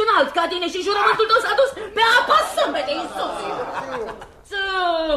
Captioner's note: laughter